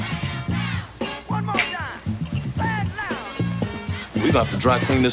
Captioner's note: fingers snapping